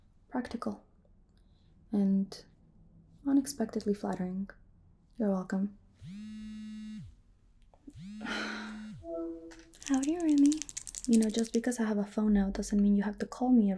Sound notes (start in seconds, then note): 7.9 phone vibrating